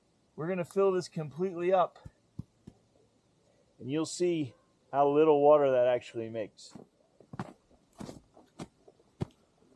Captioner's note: snow crunching underfoot